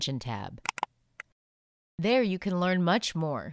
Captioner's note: click